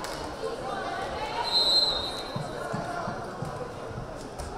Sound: whistle blaring

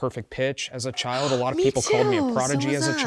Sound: gasping

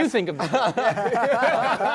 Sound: laughter

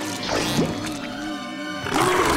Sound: vomiting

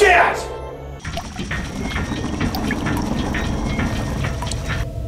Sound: gear Sounds, Water drops

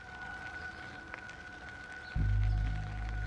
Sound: birds chirping; birds chirping

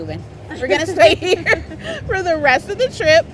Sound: laughs

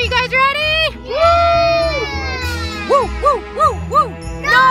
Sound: children and mommy cheer

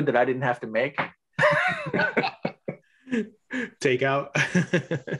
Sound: both laugh; laughs

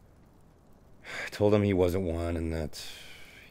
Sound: sighs

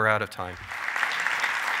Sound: applause

